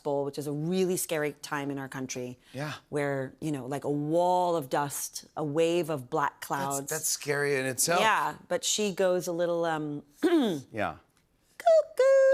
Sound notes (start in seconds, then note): 10.2 clears throat